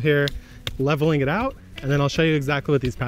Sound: rake thudding

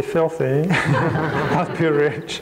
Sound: crowd laughs

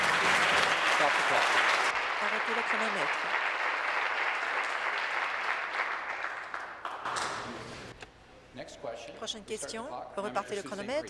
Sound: applause

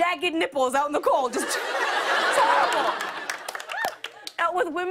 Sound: laughter

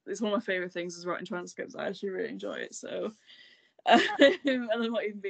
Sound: laughs

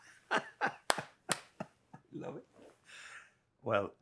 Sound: Jose laughing and clapping

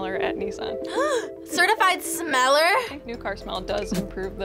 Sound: gasps

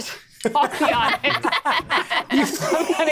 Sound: players laughing

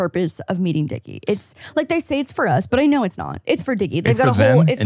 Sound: laughs

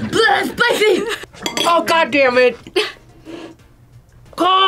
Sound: laughs

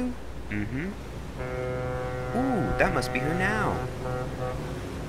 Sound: ship horn blowing

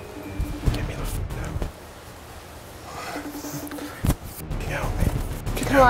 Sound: whispers

